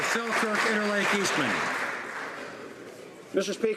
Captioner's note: applause